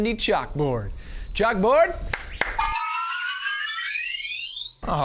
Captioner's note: claps; whimsical sound